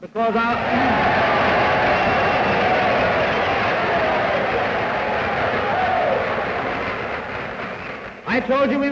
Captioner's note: cheers, applause